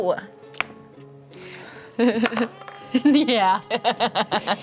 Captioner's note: dice rolls; laughs